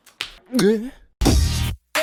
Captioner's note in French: gugh